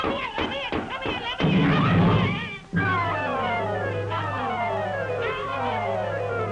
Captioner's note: yelling